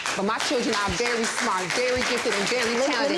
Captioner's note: audience applauds